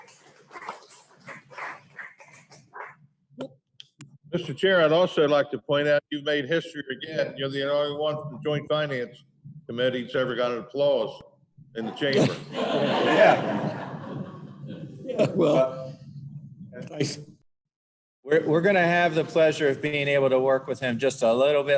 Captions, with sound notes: - Mr. Chair, I'd also like to point out that you have made history again. You are the only one from the Joint Finance Committee that has ever gotten a round of applause in the chamber. [Laughter] - We're going to have the pleasure of being able to work